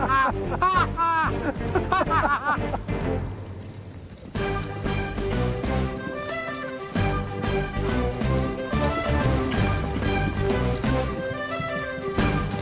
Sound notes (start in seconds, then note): 0.0 bright music; 3.0 horse clopping